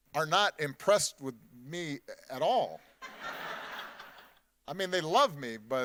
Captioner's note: audience laughing